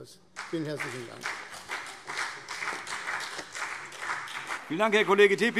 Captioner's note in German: Beifall CDU und BÜNDNIS 90/DIE GRÜNEN